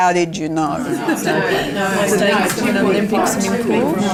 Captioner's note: participant chatter